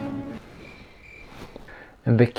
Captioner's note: crickets Chirping